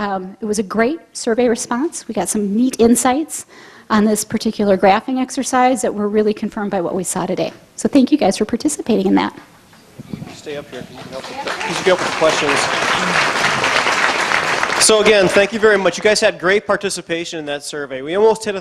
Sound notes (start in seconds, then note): 10.3 audience claps